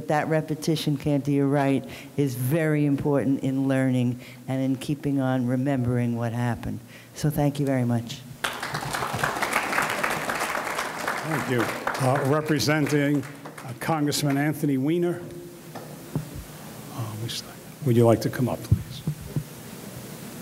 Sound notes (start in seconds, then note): 8.4 audience clapping